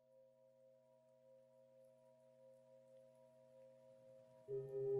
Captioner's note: tribal whistles